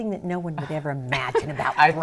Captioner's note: laughter